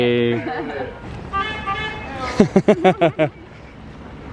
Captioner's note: horn honks